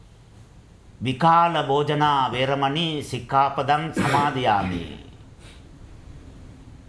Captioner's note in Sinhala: උගුර කෑරීම